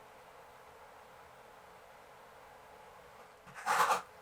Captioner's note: falls into a silence of disbelieve and confusion